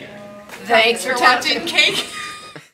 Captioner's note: laughs